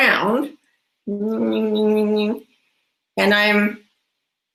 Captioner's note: groans